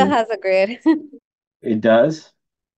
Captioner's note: laughs